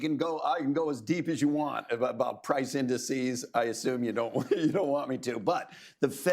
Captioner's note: laughs